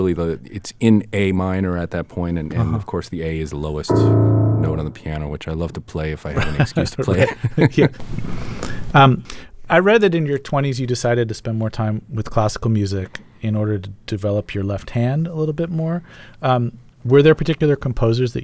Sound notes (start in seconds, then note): 3.9 playing piano; 6.3 laughter